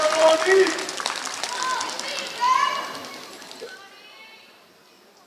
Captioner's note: applause